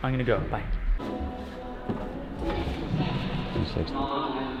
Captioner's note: echoing